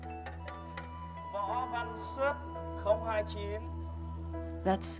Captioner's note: calling names in foreign language